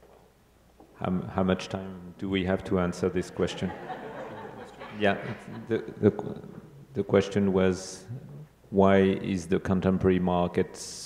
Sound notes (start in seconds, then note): 3.1 audience laughing; 4.0 speaking faintly